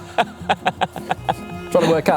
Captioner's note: laughing